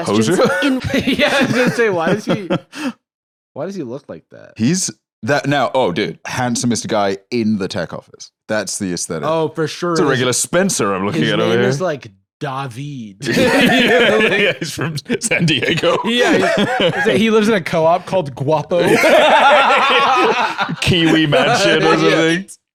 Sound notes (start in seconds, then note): 0.1 laughs; 13.2 laughs; 18.8 both laugh